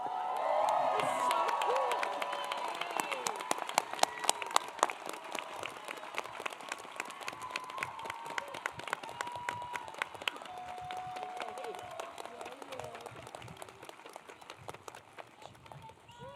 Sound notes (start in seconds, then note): 4.8 applause